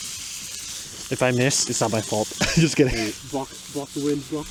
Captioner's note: laughs